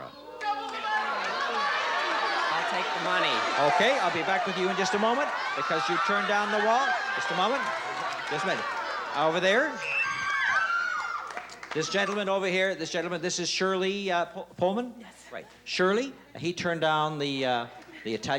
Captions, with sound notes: - Double the money! [audience yelling] - I'll take the money. - OK, I'll be back with you in just a moment because you turned down the wall. Just a moment. Just a minute. Over there. [screaming] This gentleman over here. This gentleman. This is Shirley Pullman? - Yes. - Shirley, he turned down the Italian-style